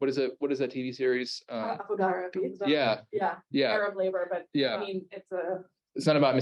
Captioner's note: Hebrew